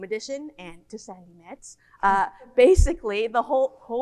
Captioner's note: whispers